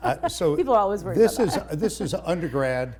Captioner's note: laughs; chuckles